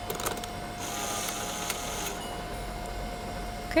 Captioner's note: camera shutter; Polaroid being printed from camera